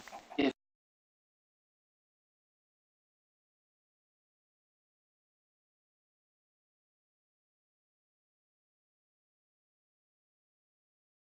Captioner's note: audio missing